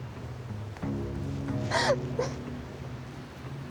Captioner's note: sobbing